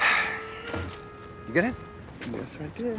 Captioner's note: sighs